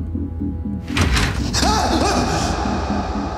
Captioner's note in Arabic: صراخ; يفتح الباب